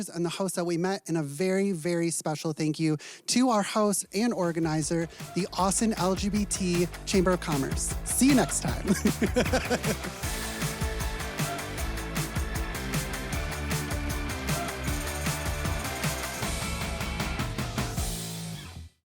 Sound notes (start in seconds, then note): 11.9 laughs; 12.8 upbeat music